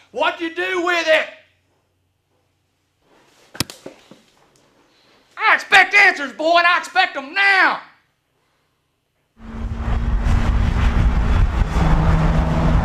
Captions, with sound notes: What'd you do with it! (hand slaps) I expect answers, boy, and I expect them now! (engine revving)